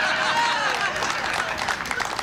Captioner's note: laughter